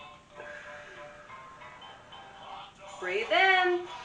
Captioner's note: breathing out